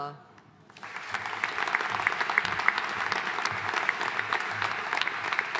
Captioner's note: audience applauding